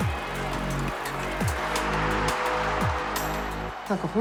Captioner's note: cheering